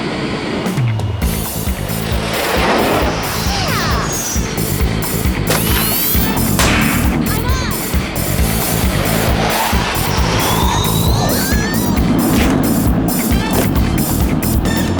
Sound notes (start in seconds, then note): 12.2 screaming